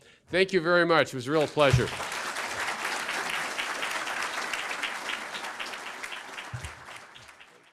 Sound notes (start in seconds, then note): 1.2 applause